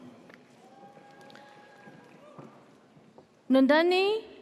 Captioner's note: audience cheers